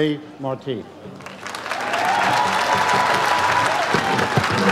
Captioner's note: audience applauds